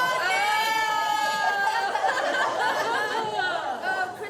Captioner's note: both laughing